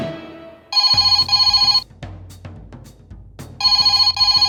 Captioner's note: phone ringing